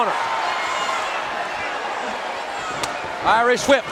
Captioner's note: crowd cheering